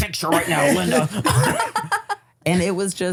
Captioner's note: everyone laughs